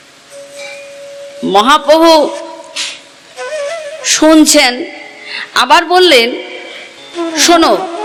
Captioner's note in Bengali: ঘণ্টা